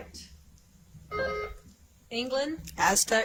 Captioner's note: buzzer chimes